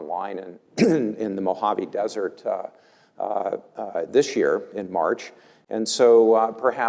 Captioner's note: cough